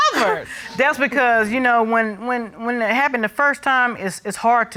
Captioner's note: stammers